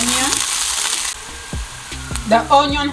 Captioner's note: cooking oil fizzes